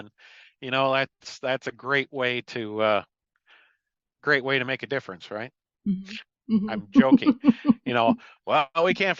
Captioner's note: sarcasm; sarcasm